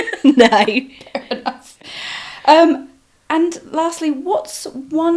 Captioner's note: laughs